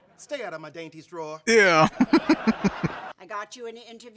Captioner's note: chuckling